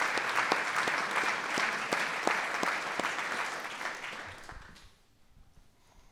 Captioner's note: applause